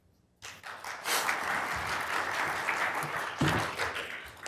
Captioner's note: applause